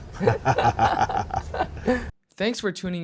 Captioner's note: laughing